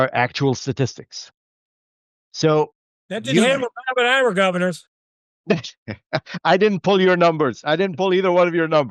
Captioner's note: laughter